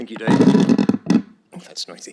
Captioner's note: mic moving